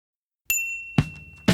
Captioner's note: ding; drum beat